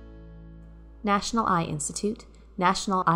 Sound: voiceover

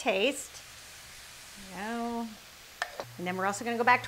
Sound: sizzling

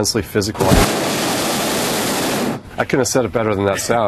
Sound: gas blowing

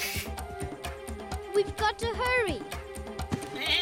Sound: bleating

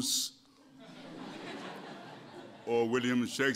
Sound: laughter

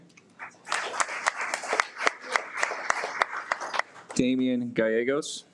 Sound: audience applauds

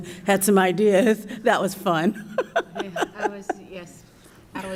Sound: chuckles

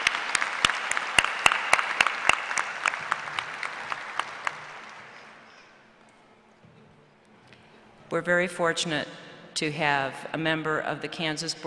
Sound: applause

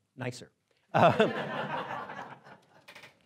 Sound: laughing

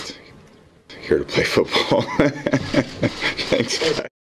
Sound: laughing

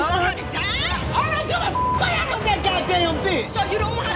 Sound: beep

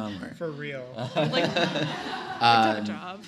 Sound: laughter

